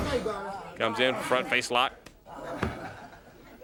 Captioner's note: crowd chatter